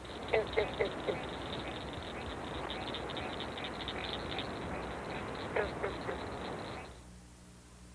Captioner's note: green frog call